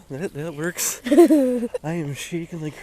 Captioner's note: laughs